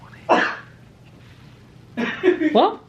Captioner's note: sneezes off camera; laughs